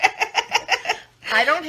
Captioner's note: laughing